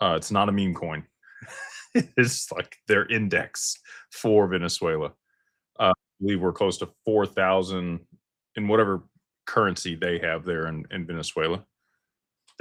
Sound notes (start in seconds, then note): 1.4 laughter